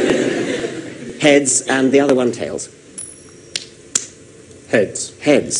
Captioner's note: audience loud laughter; coin spinning